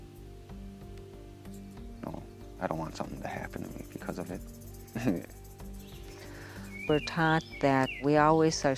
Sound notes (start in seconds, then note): 4.9 chuckles